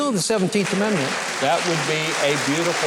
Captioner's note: audience claps